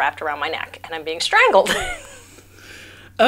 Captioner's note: laughs